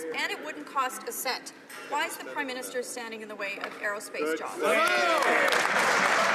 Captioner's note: some Applause